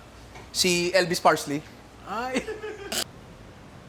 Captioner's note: laughs